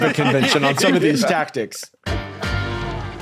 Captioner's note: group laughing